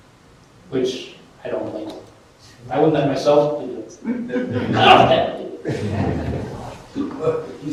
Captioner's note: laughter